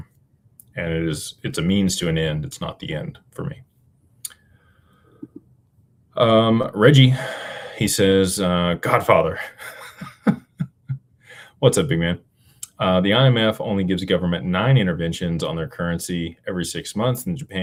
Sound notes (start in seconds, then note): 7.0 sighs; 9.5 laughter